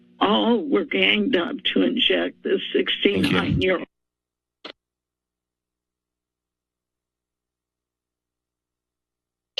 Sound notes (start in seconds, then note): 4.8 silence